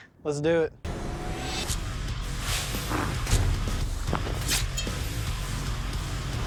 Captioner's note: impact sounds